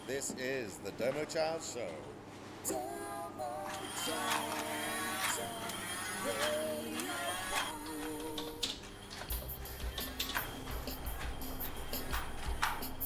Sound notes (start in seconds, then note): 4.4 bubble machine whirring; 9.2 light dance music